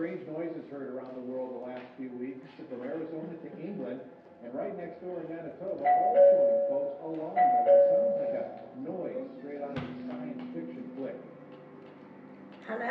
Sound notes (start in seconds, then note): 7.3 doorbell chiming; 7.8 murmuring